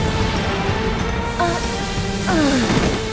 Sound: gasps, groans

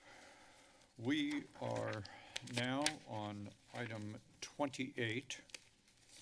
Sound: papers flipping

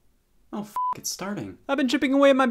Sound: beep

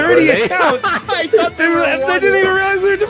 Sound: laughs; laughter

